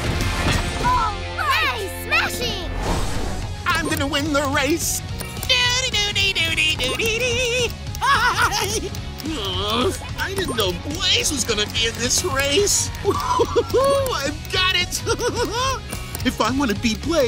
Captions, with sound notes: -All right! -Nice smashing! I'm going to win the race. [humming tune] [laughing] Ugh, I didn't know Blaze was going to be in this race! Ooh, I've got it! [giggling] If I want to beat Blaze,